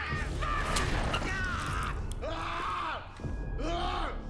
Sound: screaming

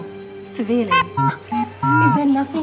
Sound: robot beeping

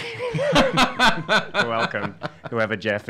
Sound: laughing

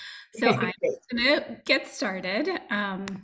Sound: audio distortion

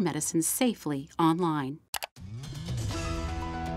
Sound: click

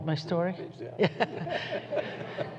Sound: laughs

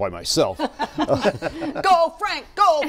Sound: laughter

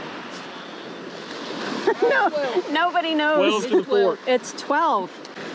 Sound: laughs

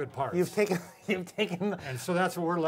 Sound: laughs

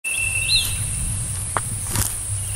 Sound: footsteps

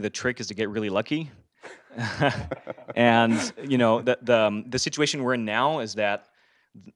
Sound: laugh

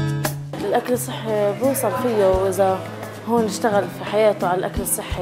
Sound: speaking in Arabic

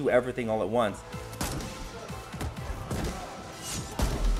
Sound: gunshot firing; gunshots firing

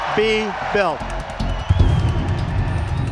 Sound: cheers

